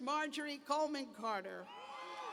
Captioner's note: cheers